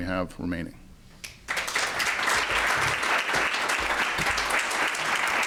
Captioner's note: applause